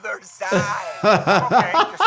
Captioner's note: laughter